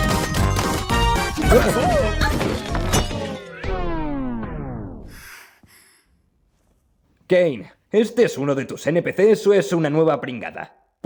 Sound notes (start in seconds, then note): 0.0 music slows, stops; 1.3 all groaning, grunting